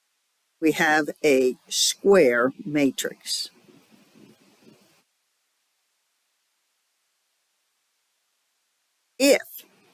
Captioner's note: 5-second silence